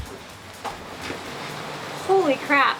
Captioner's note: rain drumming on roof